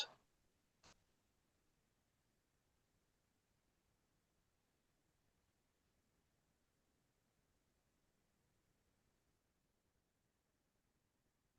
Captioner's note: pause